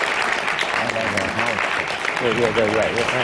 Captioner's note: applause